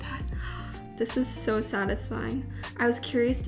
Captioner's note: gasps